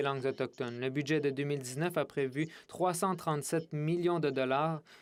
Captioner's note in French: voix de l'interprète